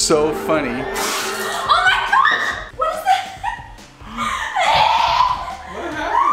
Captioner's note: spits